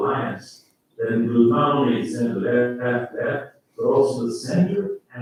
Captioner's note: faintly speaking